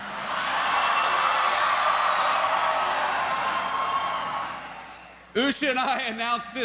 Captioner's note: cheers